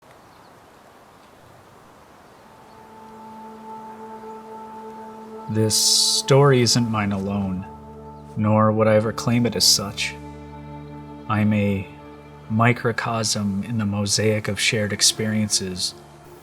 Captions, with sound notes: (nature sounds) (sorrowful music) - This story isn't mine alone, nor would I ever claim it as such. I'm a microcosm in the mosaic of shared experiences